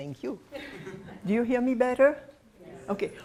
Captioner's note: laughter